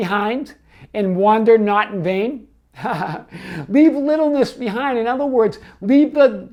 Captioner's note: laughs